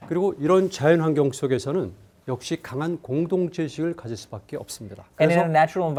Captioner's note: speaking in Korean